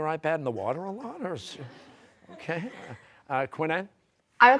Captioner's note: audience laughing